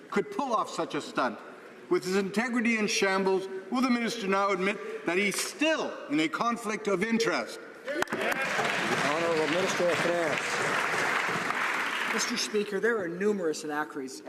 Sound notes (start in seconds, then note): 11.7 some Applause